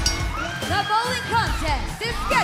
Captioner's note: bell ringing